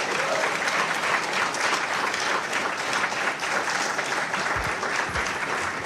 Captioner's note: crowd applauds